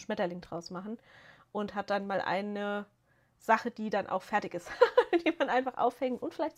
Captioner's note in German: gelächter